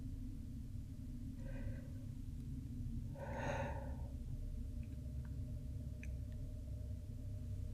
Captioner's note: deep breath